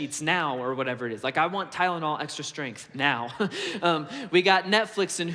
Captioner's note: chuckles